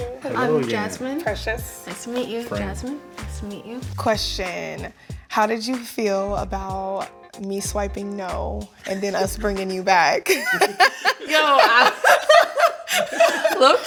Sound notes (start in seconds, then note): 10.3 both laughs; 12.7 both chuckles